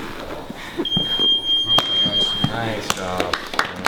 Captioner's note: beep; voiceover